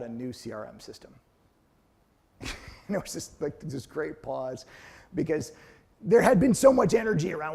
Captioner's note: laugh